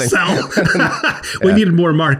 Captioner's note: everyone laughs